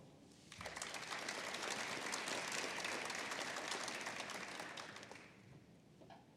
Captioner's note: applause